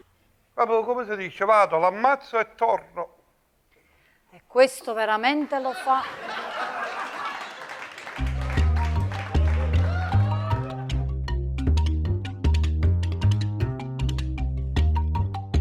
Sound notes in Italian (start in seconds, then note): 8.6 Applauso